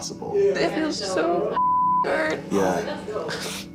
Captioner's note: beep